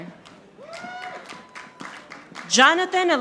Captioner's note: audience applauding